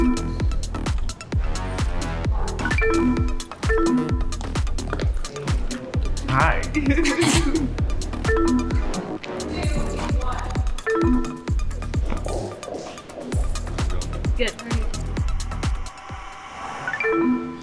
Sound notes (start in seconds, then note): 0.1 electronics beep; 0.1 upbeat music; 2.6 electronics beep; 3.0 upbeat music; 6.6 pair laughs; 8.4 upbeat music; 9.7 electronics beep; 11.2 upbeat music